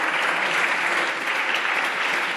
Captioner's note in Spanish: Aplausos